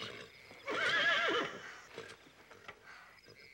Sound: Sam neighs

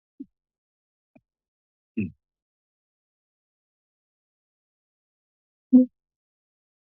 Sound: silence

